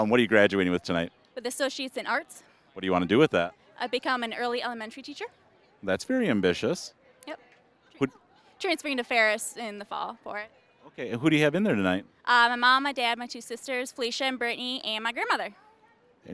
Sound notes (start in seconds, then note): none